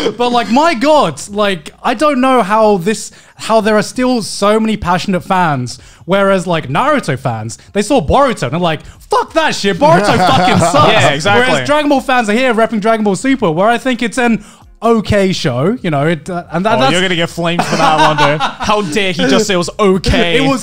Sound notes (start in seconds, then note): 0.0 men laughing; 17.5 laughing